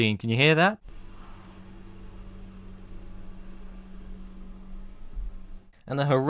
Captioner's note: distant mechanical landscaping sounds